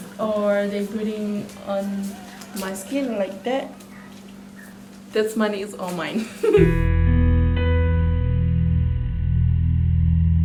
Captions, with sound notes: or they put on my skin like that. This money is all mine, (laughs). (slow paced music)